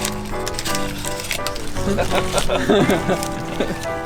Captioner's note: laughing